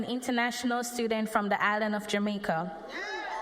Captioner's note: cheers and applause